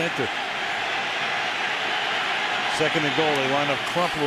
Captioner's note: crowd cheering